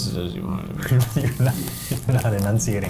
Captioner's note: chuckling